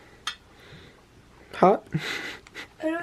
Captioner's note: laughing